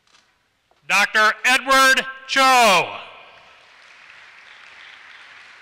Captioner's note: applause